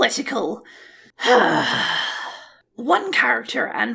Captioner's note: deep, Frustrated Sigh